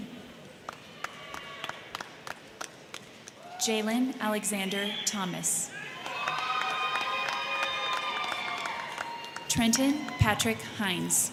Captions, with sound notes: (crowd cheering) (crowd clapping) Jaylen Alexander Thomas. (crowd cheering) (crowd clapping) Trenton Patrick Hines.